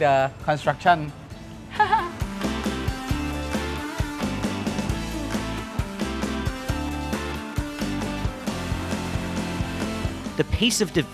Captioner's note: laughs